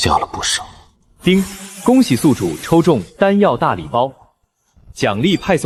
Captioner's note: ding!